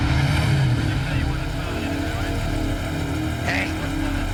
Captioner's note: radio chattering